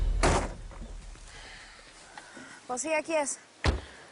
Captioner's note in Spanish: Portazo